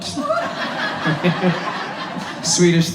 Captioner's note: audience laughs